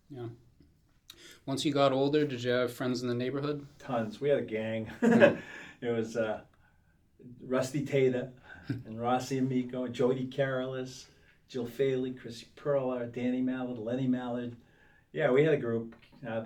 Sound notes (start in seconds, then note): 5.0 laughs